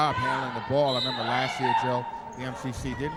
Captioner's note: referee whistling